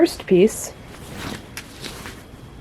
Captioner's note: whoosh